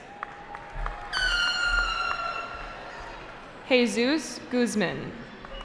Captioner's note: cheering